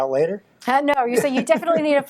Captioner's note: laughing